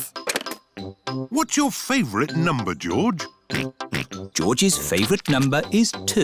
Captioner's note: snorts